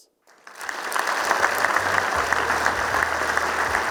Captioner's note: applause